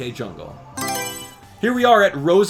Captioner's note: Mario Selection Sound